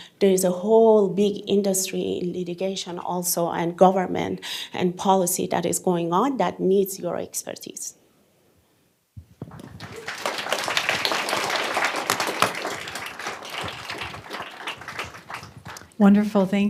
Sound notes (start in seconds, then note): 9.4 applause